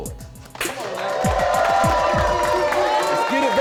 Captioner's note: cheers and applause